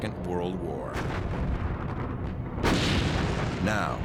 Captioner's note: gunfire